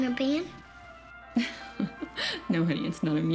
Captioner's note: chuckling